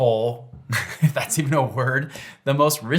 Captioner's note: chuckles